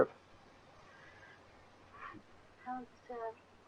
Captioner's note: devotees speaking